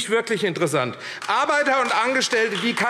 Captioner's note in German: Beifall AfD